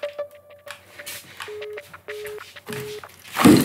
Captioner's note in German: Piepen eines beendeten Anrufs